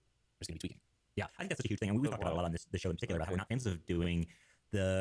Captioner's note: highly accelerated speech